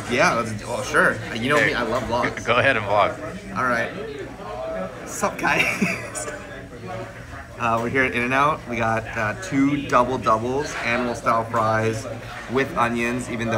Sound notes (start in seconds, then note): 5.4 laughs